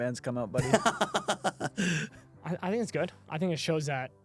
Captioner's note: laughs